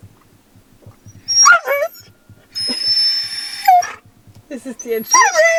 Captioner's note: Caesar is whimpering and howling